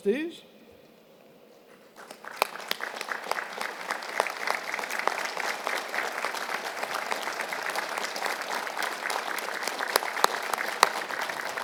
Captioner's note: applause